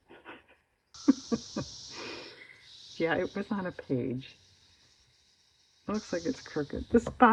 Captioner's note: laughs